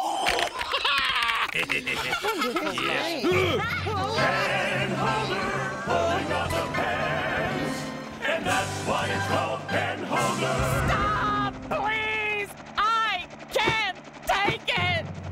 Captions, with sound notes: ( all laughing ) Stop! Please! I can't take it!